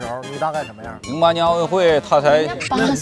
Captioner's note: laughs